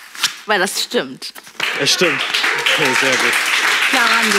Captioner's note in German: Applaus